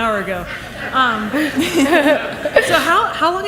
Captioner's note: laughs